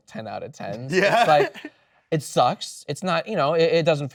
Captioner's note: laughs